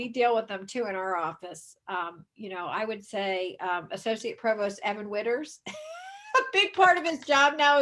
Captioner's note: chuckles